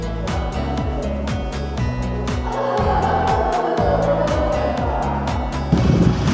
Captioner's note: laughs